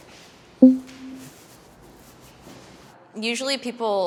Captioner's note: poll result beeps